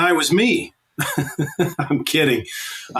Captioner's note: laughs